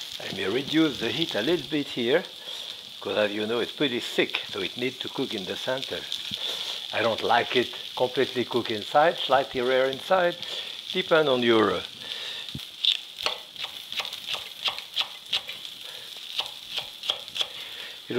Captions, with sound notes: I may reduce the heat a little bit here, 'cause as you know, it's pretty thick, so it needs to cook in the center. I don't like it completely cooked inside. Slightly rare inside. Depends on your... (knife softly chopping) (pan sizzling)